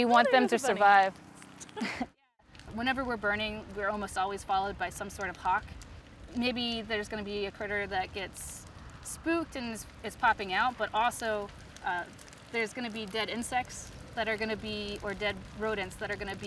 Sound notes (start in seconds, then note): 1.6 laugh; 5.5 flames crackling; 15.5 flames crackling